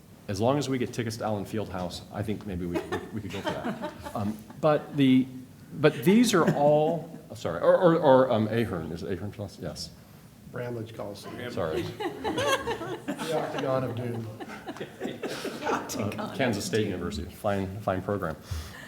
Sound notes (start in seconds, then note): 5.2 laughter; 11.2 laughter and indiscernible comments